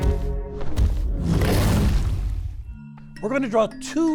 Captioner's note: dinosaur roars